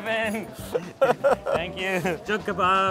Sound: laughs

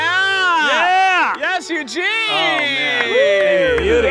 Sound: cheering

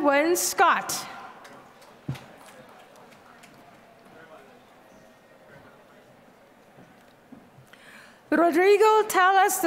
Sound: applause

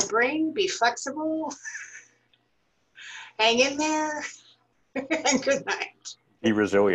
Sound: laughter

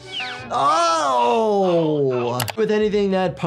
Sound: pained shouting

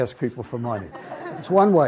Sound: audience laughs

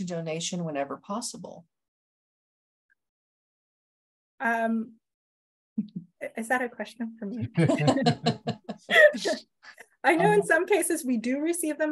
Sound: laughter

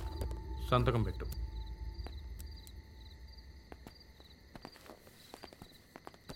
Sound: none

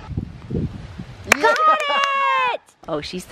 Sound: clapping

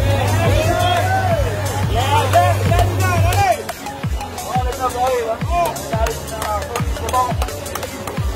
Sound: cheering

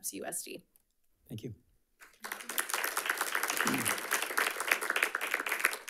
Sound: audience applauding

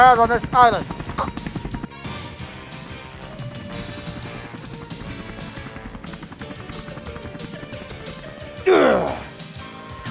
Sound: rotor Sounds

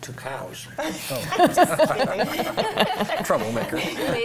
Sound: laughs

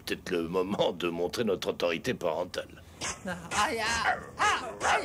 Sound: chomping

